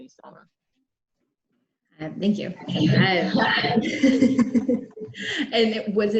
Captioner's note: laughs